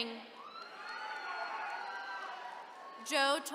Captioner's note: attendees cheering